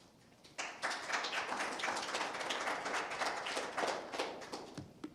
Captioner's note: audience applauds